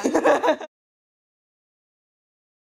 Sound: laughs

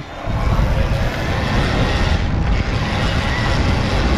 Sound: whirring

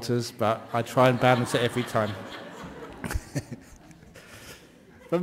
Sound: laughter

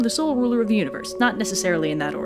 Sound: none

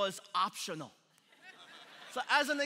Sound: congregation laughing

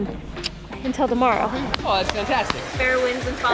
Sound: kissing

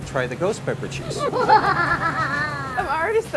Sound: evil laughing

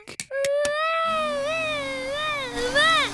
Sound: vacuum cleaner whirring

